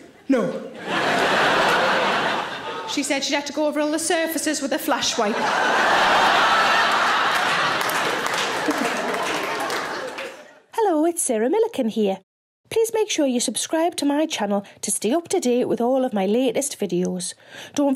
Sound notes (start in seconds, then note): 0.6 audience laughs; 5.0 audience laughs; 7.5 audience claps